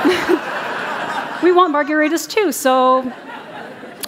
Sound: laughter

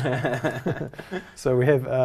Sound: laugh

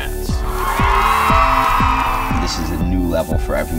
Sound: crowd cheering

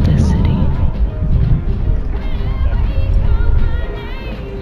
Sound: heavy, constant sounds of wind

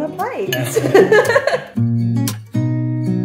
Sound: laughter; gentle guitar music

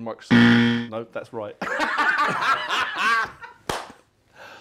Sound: laughter

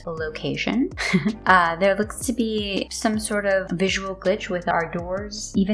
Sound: disappointed laugh

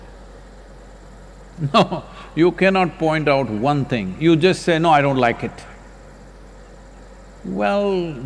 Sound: laughs

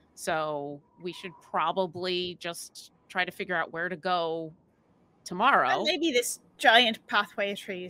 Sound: none

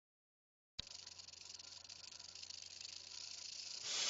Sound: rattling

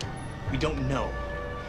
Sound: door creaking

